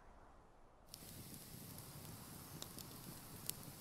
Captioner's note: wind whistling; fire crackling